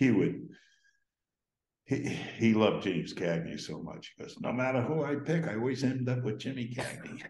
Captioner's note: we Laugh